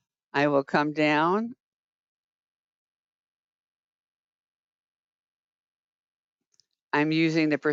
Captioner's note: 5 seconds pause